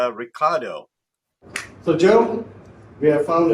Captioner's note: hands clap